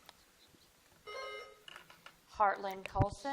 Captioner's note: buzzer dings